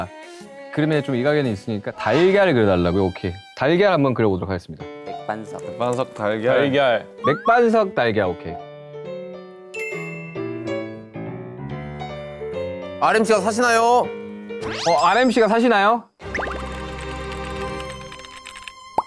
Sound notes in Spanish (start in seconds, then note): 16.4 Typing; 16.4 Typing ...Typing